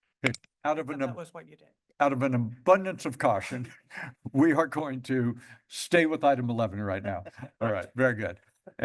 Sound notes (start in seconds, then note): 3.8 chuckles